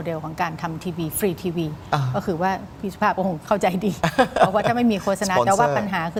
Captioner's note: laughter